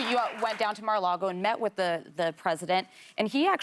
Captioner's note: applause